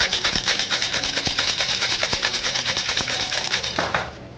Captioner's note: bottle rattling